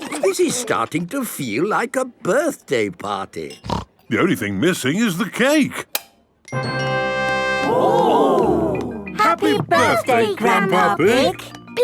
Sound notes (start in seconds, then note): 6.3 click